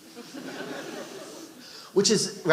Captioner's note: audience laughing